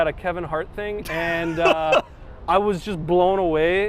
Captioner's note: laughs